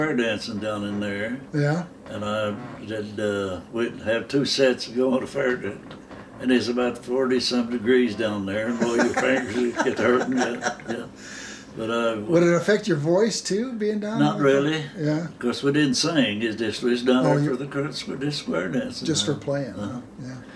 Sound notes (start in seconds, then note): 10.9 laughing